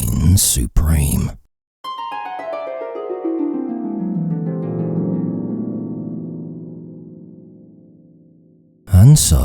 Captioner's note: dream sound effects